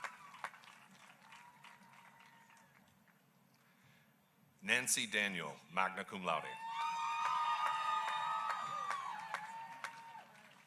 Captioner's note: applause